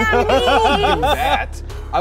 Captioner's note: laughing